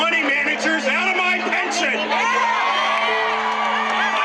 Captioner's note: cheering